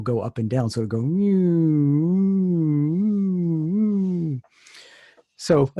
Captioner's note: oscillating Wave Tone